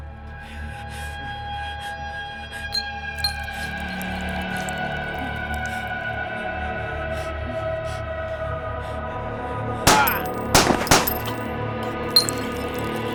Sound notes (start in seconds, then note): 5.2 suspenseful music; 9.8 gun firing